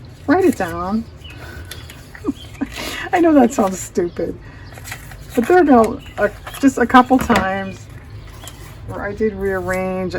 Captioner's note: laughs